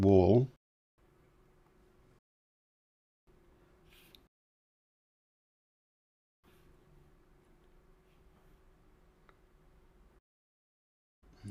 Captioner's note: silence